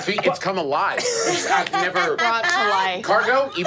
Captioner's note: laughing